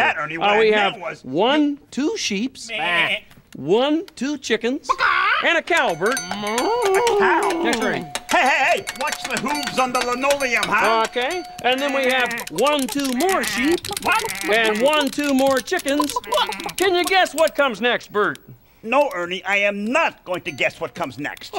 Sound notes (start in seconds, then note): 2.6 sheep bleating; 4.5 chickens squawking; 6.1 cow mooing